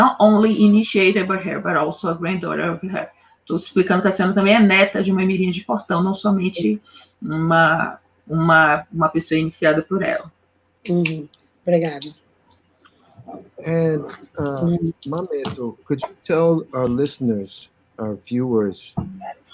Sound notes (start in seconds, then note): 10.3 speaking Portuguese